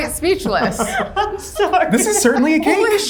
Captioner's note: laughs